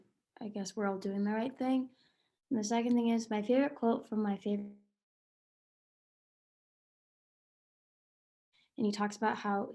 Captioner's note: sound cuts out